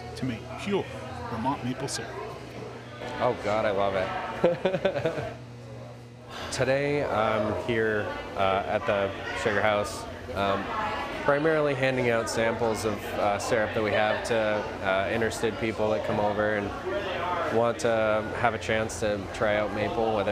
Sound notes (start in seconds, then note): 2.4 visitors chattering; 4.4 laughs